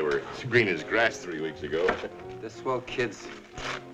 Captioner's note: chuckling